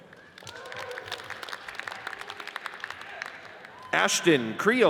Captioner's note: audience cheers and applauds